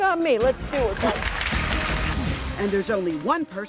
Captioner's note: applause